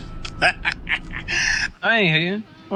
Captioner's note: laughing